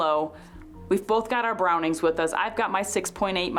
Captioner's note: audio cutting out